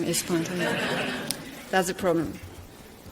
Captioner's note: audience laughter